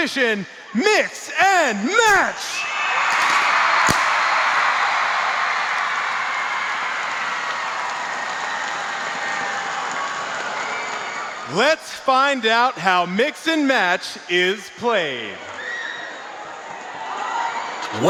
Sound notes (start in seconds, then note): 2.8 crowd cheering